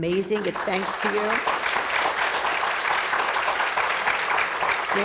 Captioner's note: applause